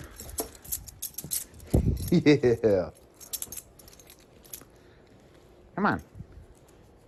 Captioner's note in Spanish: Ella se ríe